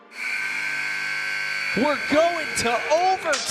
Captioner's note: timer buzzing